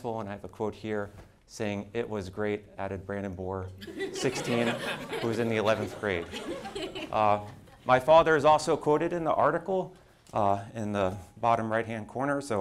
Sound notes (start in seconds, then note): 6.7 group laughing